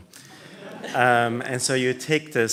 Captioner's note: laughter